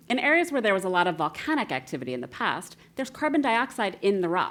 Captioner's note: none